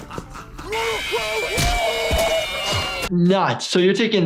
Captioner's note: animatronic laughing; video game character yelling